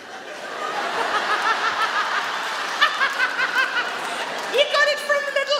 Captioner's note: audience laugh; Sarah laughs